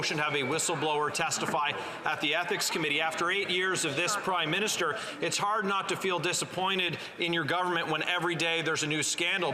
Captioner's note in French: voix de l'interprète